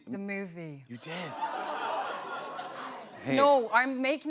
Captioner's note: laughter